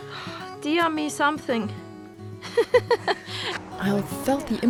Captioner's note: giggles